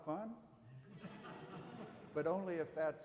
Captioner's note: audience laughing